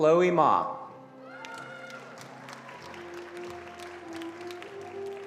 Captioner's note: attendees applauding